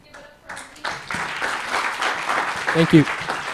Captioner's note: applause